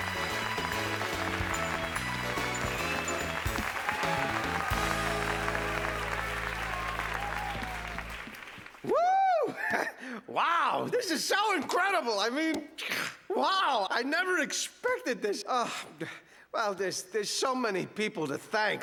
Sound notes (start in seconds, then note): 8.3 laughing; 12.4 clears throat